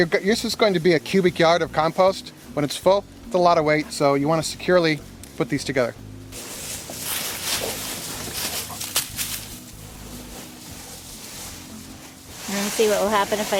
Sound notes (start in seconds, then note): 6.3 leaves rustling